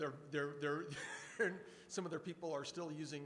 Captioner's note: speaker 2 chuckles